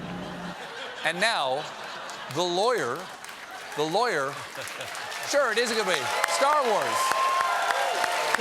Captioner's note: laughter